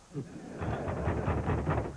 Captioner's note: knocking